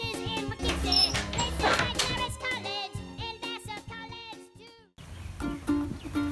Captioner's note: door closes; ukulele